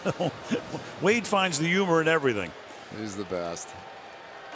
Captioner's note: laughs